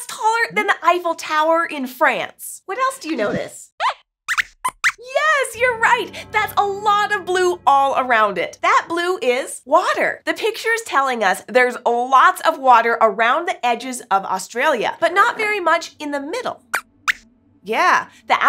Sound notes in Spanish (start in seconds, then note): 4.3 Squeaks chirría; 16.5 Squeaks chirría